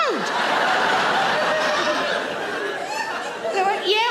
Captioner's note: audience laughing